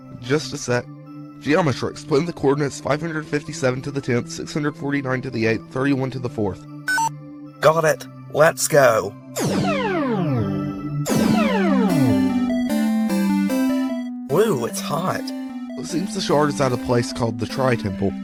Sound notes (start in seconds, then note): 6.8 beep boop; 9.4 teleportation sound